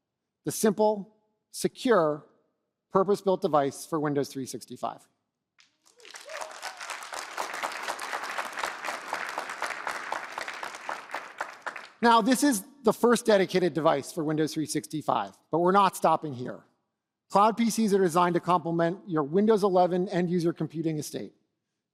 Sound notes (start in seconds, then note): 5.6 applause